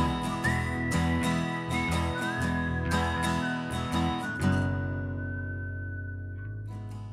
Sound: whistling

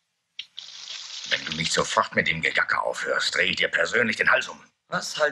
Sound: German spoken audio

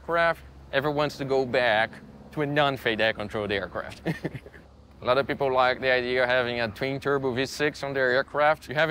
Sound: laughs

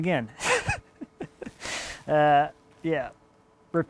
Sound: chuckles

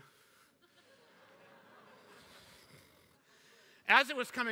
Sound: laughter

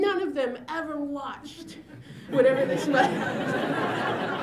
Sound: laughter

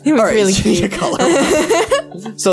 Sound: laughter

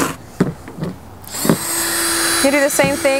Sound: drill whirring

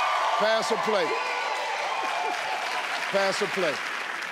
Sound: crowd cheers

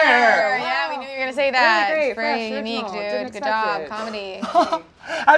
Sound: sarcastically

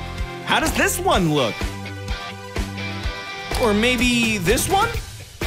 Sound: none

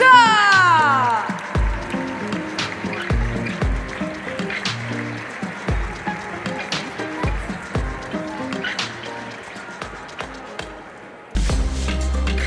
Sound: applause; ♫ Midtempo guitar music ♫

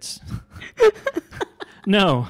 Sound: laughing

